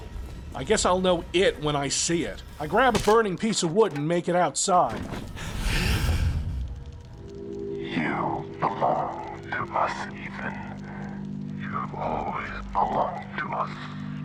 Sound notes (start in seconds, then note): 7.8 creepy voice